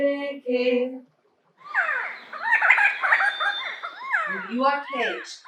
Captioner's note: singing stops abruptly and we hear the song of the quetzal bird